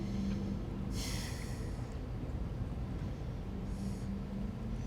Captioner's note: Bobby sighs